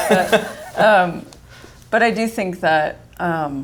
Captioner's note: laughs